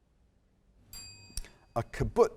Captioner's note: timer dings